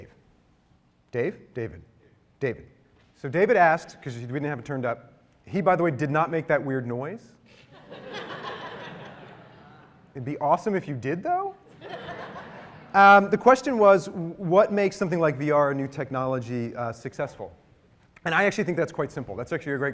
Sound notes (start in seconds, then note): 7.5 laughter